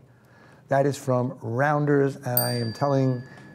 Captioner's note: bell dings